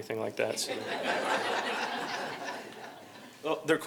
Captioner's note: laughter